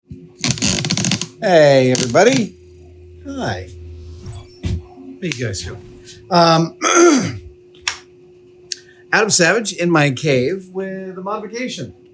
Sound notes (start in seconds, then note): 4.0 graphic beeping